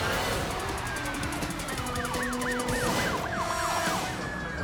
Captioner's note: suspenseful music continues; sirens wailing